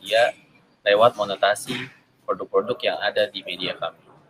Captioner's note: speaking indonesian